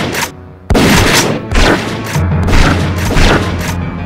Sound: shotgun sounds; bullet impact

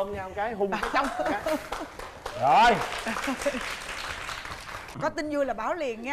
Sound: applause

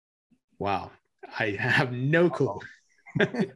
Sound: chuckles

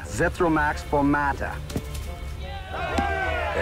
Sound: cheering

